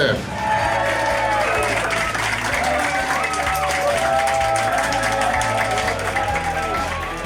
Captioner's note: crowd clapping and cheering